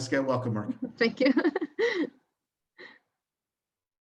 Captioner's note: laughs